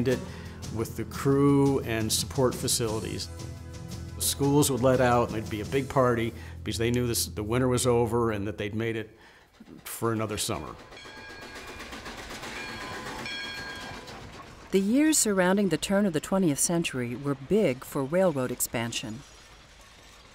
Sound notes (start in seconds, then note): 10.9 bell rings; 12.3 train rumbles